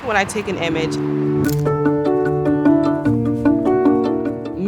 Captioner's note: shutter click